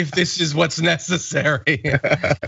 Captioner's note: laugh